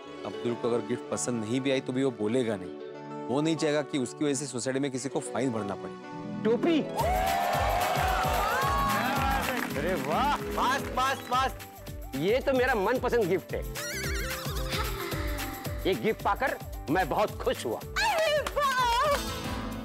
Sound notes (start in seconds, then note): 6.9 cheering and applauding